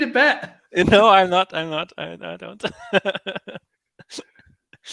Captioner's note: laughs